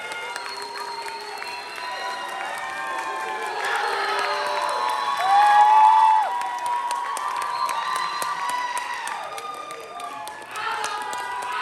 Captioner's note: applause